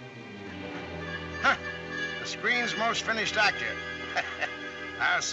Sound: scoffs; chuckles

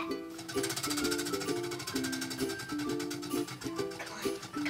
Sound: wheel spinning

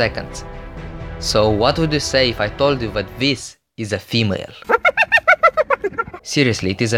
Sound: hyena Laughs

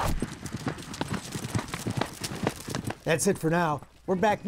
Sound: horse galloping

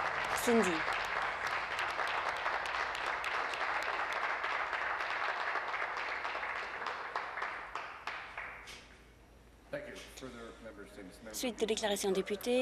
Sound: applause

